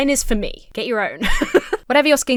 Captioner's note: laughs